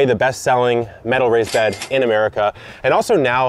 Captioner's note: cash register rings